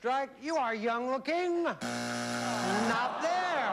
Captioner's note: buzzer